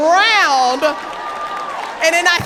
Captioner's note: audience laughing and applauding